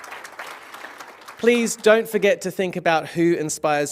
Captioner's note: applause